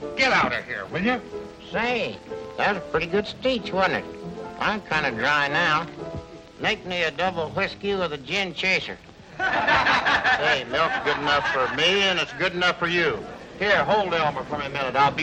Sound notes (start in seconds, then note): 9.2 men laughing